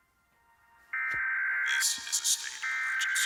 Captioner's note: phone beeping; automated Voice